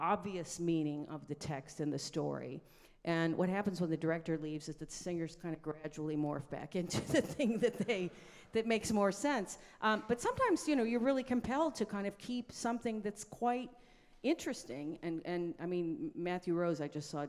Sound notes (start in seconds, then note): 6.9 laughing; 7.8 audience laughs